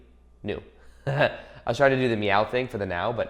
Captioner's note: chuckles